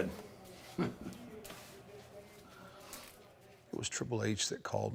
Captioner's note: Mark chuckles